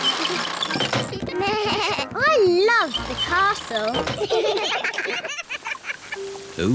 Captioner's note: bleats; all laugh